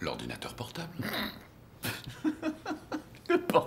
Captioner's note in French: riant